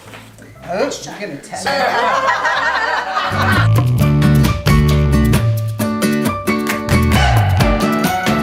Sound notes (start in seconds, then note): 1.7 laughter; 3.2 upbeat guitar music